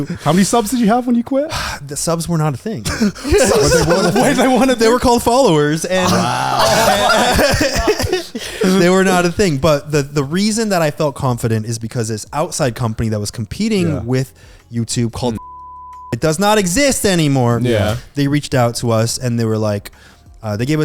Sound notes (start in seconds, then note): 6.9 all laughing; 15.4 beep